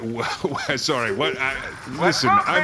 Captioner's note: stammering